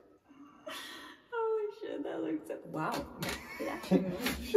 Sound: laughs

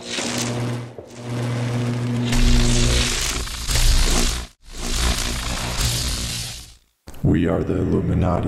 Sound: electricity crackles

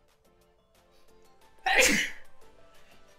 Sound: sneeze

